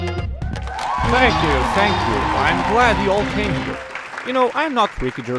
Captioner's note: everyone cheers!